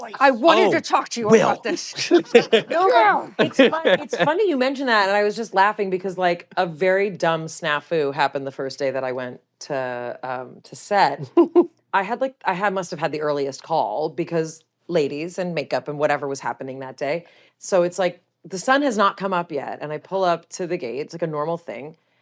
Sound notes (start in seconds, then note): 2.0 grunts; 2.1 laughs